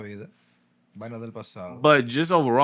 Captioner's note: speaking Spanish